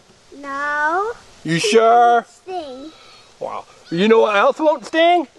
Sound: voiceover

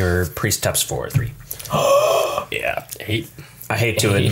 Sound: gasp

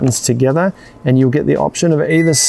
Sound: control panel dings

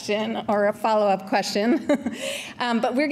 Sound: chuckles

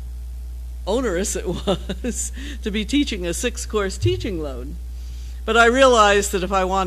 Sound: laugh

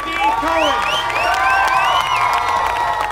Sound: cheering

